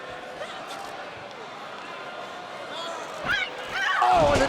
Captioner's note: wrestlers shout and snarl